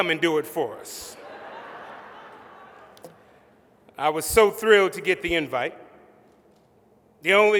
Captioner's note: laughter